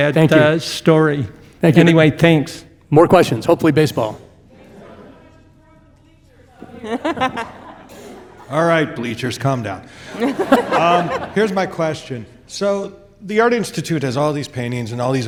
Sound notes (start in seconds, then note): 10.1 everyone laughing